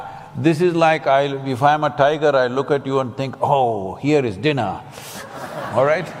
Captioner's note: laughter